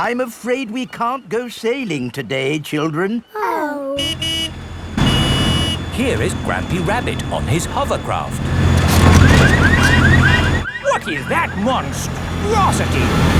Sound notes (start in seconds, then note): 4.0 honking; 9.1 car alarms blaring